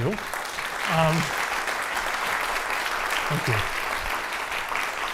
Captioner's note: audience applauding